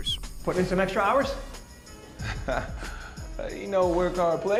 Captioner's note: chuckles